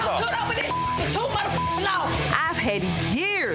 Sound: beep

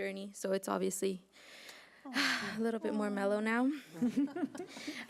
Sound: exhaling

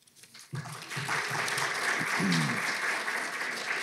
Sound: audience claps

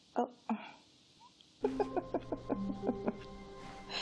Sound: laughter

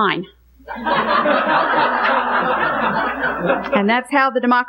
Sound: congregation laughing

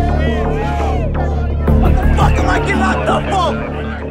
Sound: people shouting; man shouts

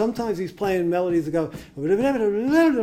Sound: mimicking quick jazz saxophone music

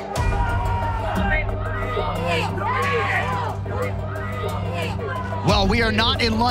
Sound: crowd cheering

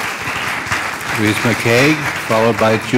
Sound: cheers and applause

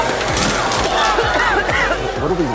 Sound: audience coughing

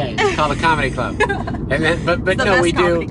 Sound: laughter

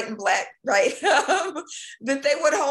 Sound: laughing

